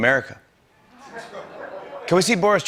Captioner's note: laughter